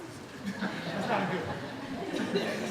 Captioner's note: laughing